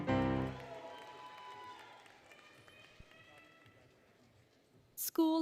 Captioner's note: applause, Cheering, Music; applause, Cheering